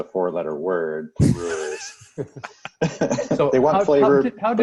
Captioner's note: laughing